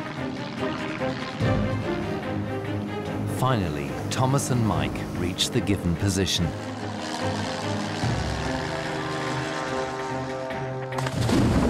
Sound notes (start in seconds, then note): none